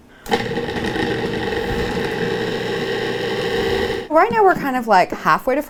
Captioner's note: food processor whirs